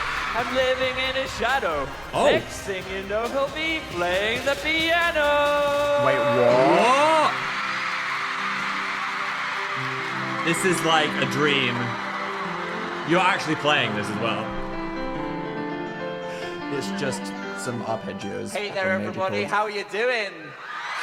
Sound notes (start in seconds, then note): 7.6 audience cheering; 7.6 relaxing piano music; 14.9 relaxing piano music